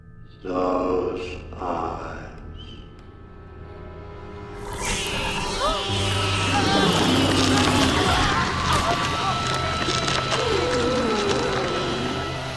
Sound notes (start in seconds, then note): 4.5 screeching; 4.6 gasps, screaming